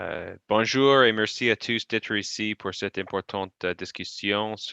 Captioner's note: speaking in foreign language